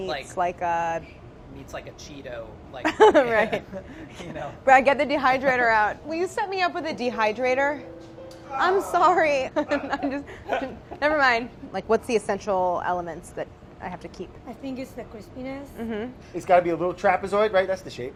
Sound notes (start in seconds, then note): 9.4 laughs